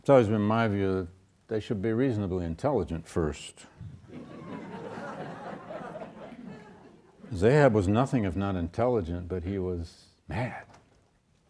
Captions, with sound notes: it's always been my view that they should be reasonably intelligent first. (audience laughs) 'Cause Ahab was nothing if not intelligent, but he was mad.